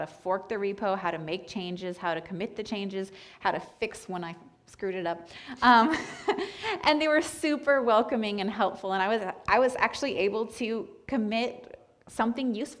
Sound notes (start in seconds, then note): 5.1 laughs